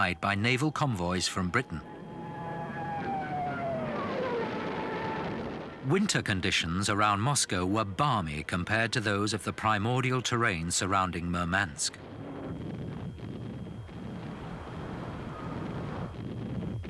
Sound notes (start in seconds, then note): 3.0 engines roaring; 13.6 explosions booming